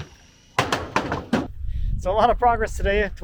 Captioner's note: board thuds